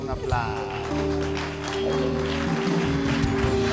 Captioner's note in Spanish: Aplausos